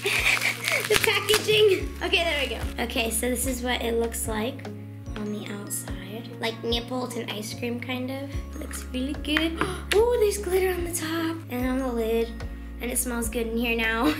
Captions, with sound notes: (laughing) The packaging, okay, there we go. Okay, so this is what it looks like on the outside. Like Neapolitan ice cream, kind of. Looks really good. (gasping) Oh, there's glitter on the top and on the lid and it smells good in here now.